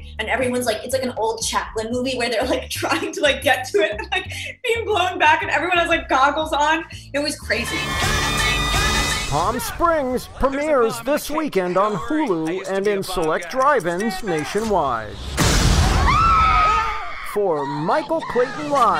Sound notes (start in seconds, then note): 13.0 fireworks explode; 13.0 people scream